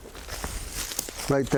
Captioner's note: rustles